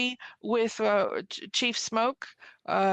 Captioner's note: speaking French